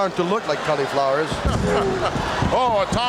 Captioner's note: Monsoon laughs